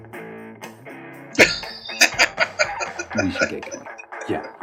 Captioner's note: laughing